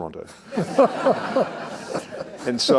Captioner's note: all laughing